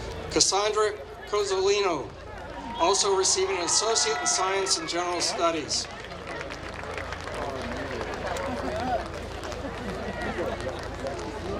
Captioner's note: applause